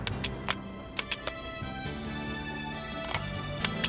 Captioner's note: gun clicking